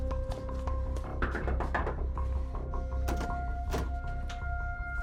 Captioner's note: tense music continues; knuckles rapping